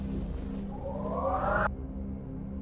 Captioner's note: wind noise